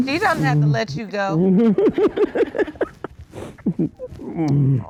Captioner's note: sniffles; laughing